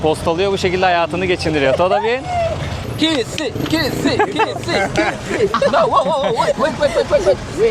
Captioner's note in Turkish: kahkaha